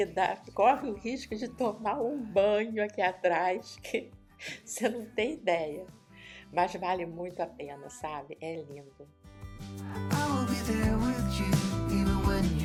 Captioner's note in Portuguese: risos